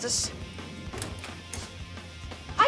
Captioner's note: door opens